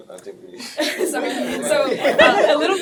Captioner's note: laughing